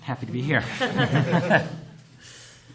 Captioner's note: laughter